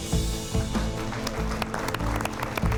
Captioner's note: applause